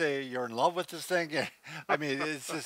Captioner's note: laughs